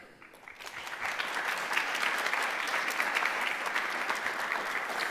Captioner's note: audience applauding